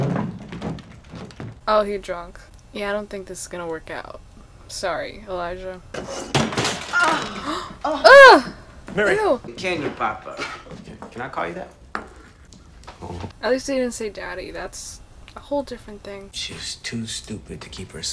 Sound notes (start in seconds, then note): 7.0 gasps